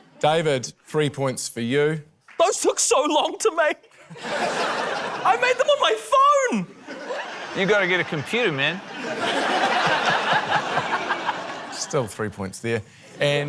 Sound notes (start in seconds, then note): 3.9 laughter; 10.6 laughter